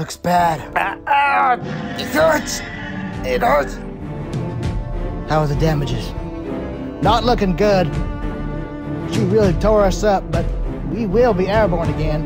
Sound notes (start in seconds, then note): 0.8 screams in pain